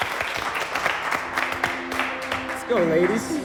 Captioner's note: applause